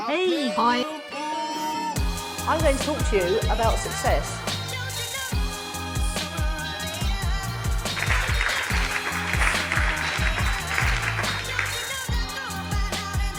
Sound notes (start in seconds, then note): 5.0 upbeat music; 7.8 clapping; 10.7 upbeat music